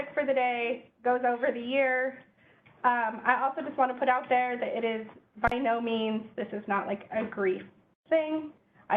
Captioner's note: none